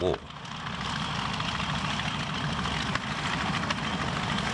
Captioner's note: plane roaring